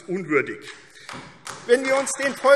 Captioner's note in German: Beifall AfD